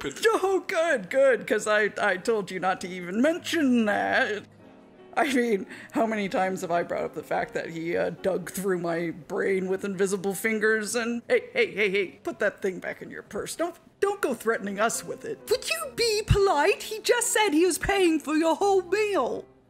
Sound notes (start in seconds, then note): none